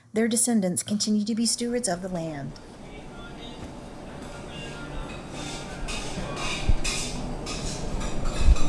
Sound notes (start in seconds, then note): 4.4 metals clanking